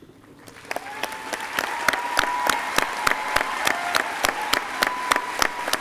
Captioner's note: crowd cheering and applauding